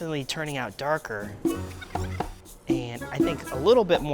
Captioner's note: sped up voice squeaks